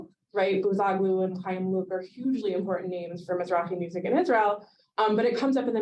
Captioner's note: Hebrew